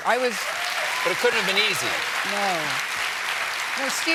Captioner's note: applause